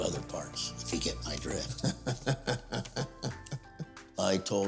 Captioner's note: laughing